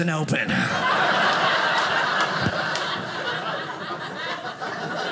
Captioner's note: audience laughing